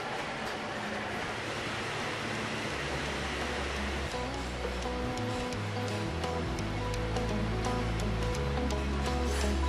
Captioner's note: shop noises